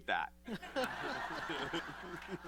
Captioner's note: laughter